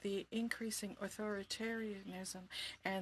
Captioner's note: speaking in French